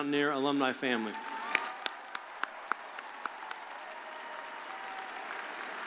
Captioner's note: audience applauding